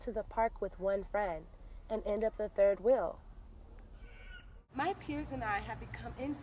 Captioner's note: bird chirps in awkward silence